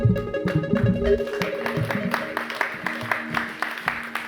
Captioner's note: crowd clapping